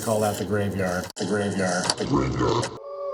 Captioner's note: voiceover